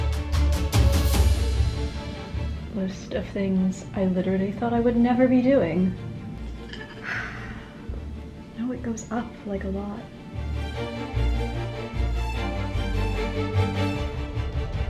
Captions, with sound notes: List of things I literally thought I would never be doing, (deep existential sigh) No, it goes up, like a lot. (dramatic orchestral music)